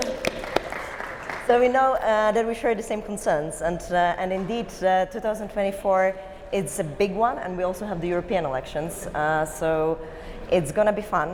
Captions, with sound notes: - Here we go. - Nice to have you. (audience applauds) - So we know that we share the same concerns, and indeed, 2024, it's a big one, and we also have the European elections,